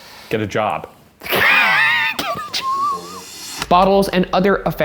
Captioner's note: laughing